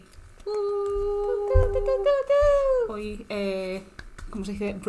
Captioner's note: celebratory noises